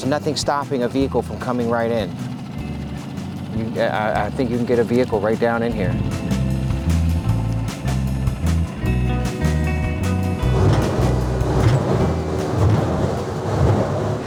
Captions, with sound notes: There's nothing stopping a vehicle from coming right in. You... I, I think you can get a vehicle right down in here. (bumping)